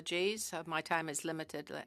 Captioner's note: speaking french